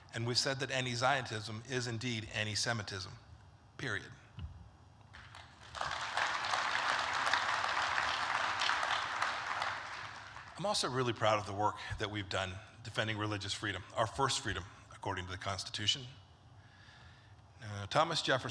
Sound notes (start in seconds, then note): 5.1 applause